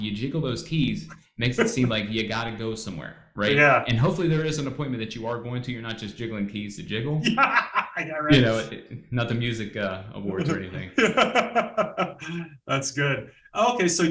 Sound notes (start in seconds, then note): 7.2 laughs; 10.3 laughs